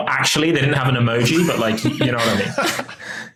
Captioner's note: chuckles